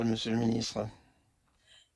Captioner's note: speaking French